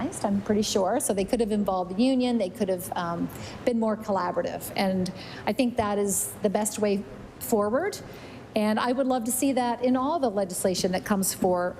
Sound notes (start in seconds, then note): none